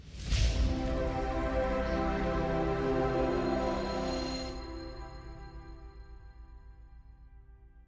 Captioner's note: futuristic sound effects